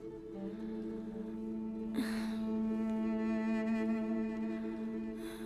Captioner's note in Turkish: Müzik - Hüzünlü; İnleme sesi